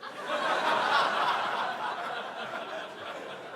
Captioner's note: crowd laughing